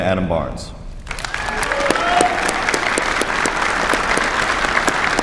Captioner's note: applause